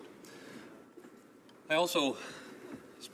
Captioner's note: none